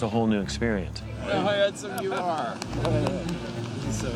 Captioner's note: indistinct chatter